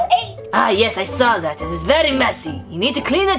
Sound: voiceover

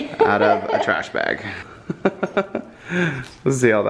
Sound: laughs

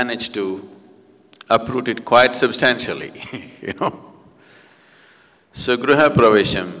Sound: laughs

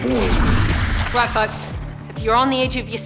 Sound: splash

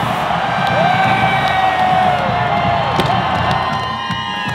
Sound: explosions; enthusiastic cheering

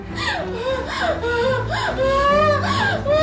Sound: breathing heavily

